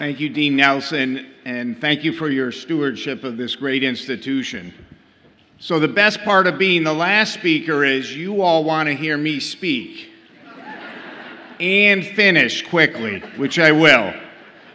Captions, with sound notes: - Thank you, Dean Nelson, and thank you for your stewardship of this great institution. So the best part of being the last speaker is you all wanna hear me speak (audience laughs) and finish quickly, which I will.